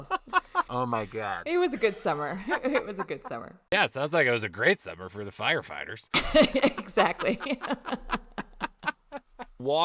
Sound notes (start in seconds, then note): 0.5 laughing; 2.5 chuckling; 6.1 giggling; 8.7 laughing